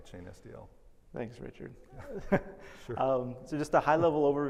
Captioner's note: laughs